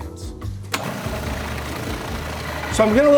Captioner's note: food processor whirring